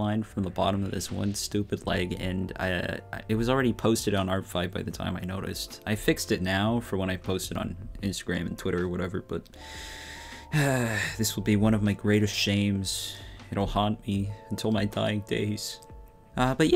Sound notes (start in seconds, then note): 9.6 deep sigh